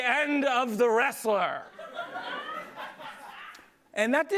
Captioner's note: laughter